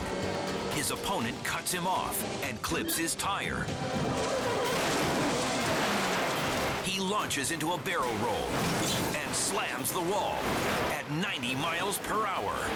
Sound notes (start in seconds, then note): 3.6 tires screeching